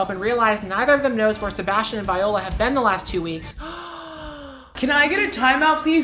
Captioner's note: audible breath